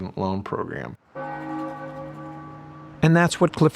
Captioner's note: bell ringing